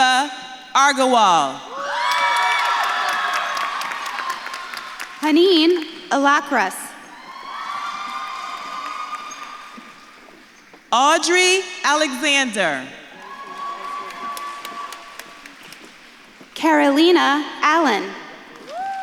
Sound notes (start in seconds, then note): 1.7 audience claps and cheers; 7.1 audience claps and cheers; 13.1 audience claps and cheers